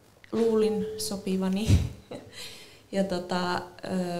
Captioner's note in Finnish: Naurahtaa